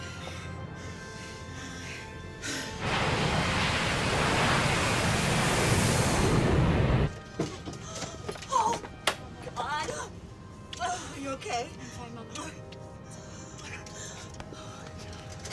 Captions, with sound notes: [GASPS] OH, MY GOD. ARE YOU OKAY? I'M FINE, MOM.